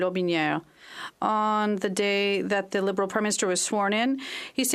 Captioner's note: speaking French